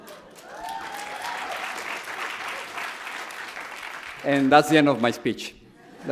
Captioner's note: audience applauds; audience cheers